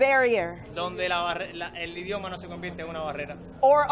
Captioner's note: and interpreter speaking in foreign language